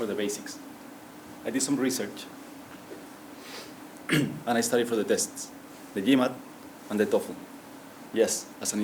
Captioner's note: cough